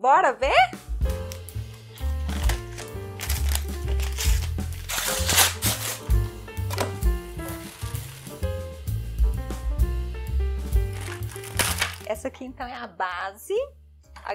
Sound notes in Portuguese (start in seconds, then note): 4.2 som de papel rasgando